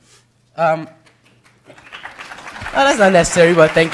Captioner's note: applause